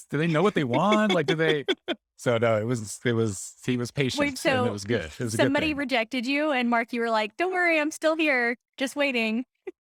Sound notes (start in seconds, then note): 0.2 laughing